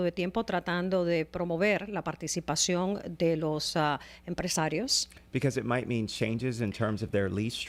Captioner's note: Hablando ingl\s